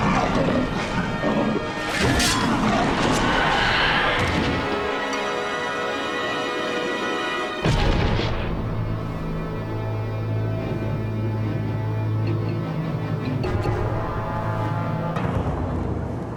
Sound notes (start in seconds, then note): 2.5 snick; 4.0 thud